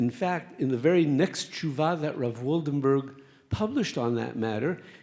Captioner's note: speaks Hebrew